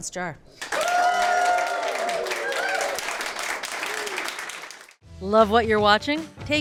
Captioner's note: crowd whooping and clapping